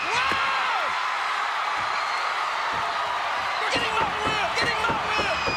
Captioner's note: crowd cheering